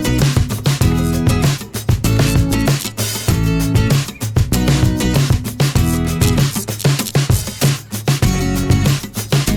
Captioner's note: welding